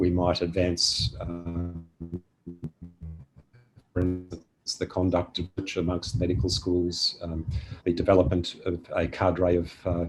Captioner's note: audio distorted